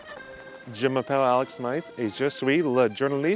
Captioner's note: speaking french